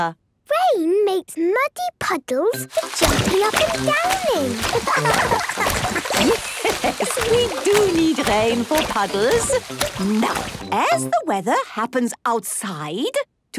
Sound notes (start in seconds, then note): 4.5 laughing; 4.8 Madame Gazelle laughing